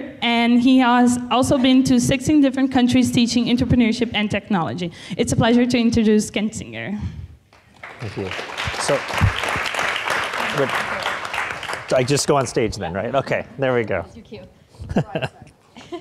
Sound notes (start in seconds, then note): 7.6 audience applauding